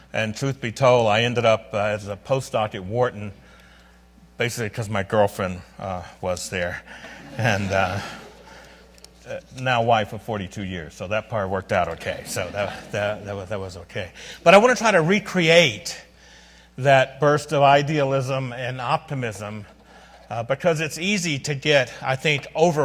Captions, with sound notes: and truth be told I ended up as a postdoc at Wharton basically because my girlfriend was there. (audience laughs) And now wife of 42 years, so that part worked out okay. So that was okay. But I wanna try to recreate that burst of idealism and optimism because it's easy to get I think